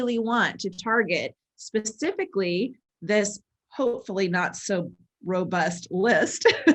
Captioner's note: laughs